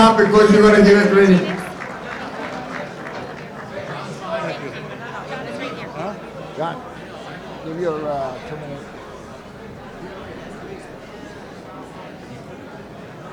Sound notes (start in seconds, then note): 2.2 audience laughs